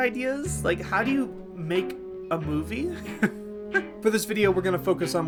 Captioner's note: laughing